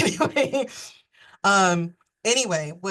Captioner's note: chuckles